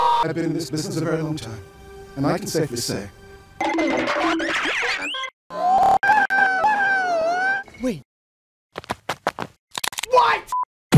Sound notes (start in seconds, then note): 3.6 goofy cartoon sounds; 5.5 sounds of joy; 8.7 footsteps; 9.6 bones crunching